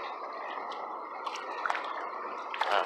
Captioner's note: soft splashing